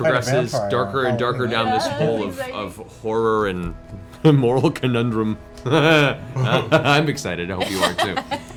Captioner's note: laughs